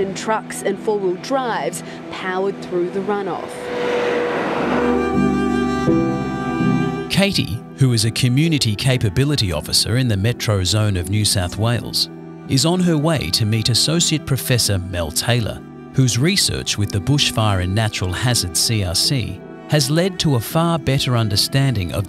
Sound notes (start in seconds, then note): 2.4 car engine revving; 5.1 soft music